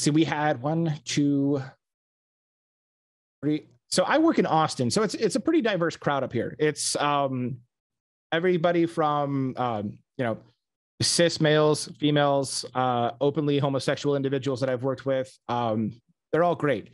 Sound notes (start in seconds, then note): none